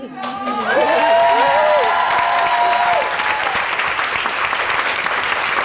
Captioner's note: audience cheering and applauding